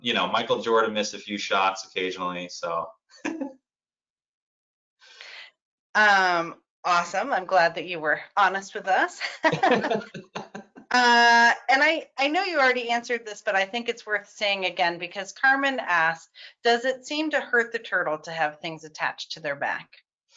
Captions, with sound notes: You know, Michael Jordan missed a few shots occasionally. (laughs) - Awesome, I'm glad that you were honest with us. (both laughing) I know you already answered this, but I think it's worth saying again, because Carmen asks, "Does it seem to hurt the turtle to have things attached to their back?"